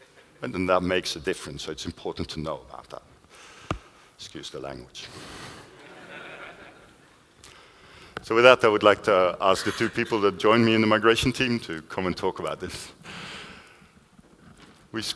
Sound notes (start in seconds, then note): 5.7 laughter